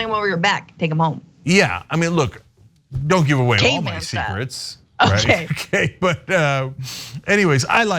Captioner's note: laugh